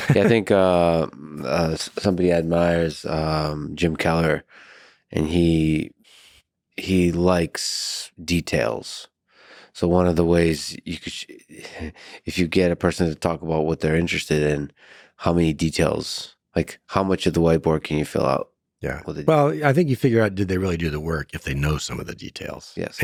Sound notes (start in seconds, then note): 11.7 laughs